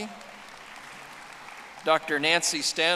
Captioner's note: audience applauding